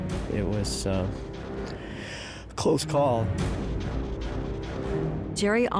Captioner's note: inhales